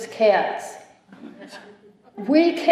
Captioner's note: laughter